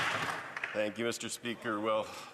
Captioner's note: some Applause